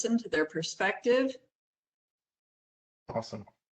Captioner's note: professor speaking